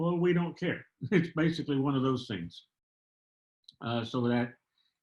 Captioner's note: laughter